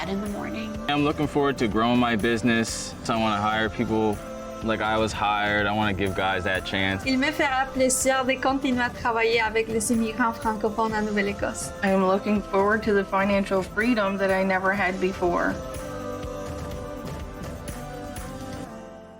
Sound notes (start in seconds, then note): 7.8 speaking in foreign language